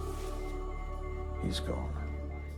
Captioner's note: monitor beeping